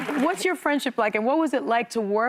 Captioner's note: applause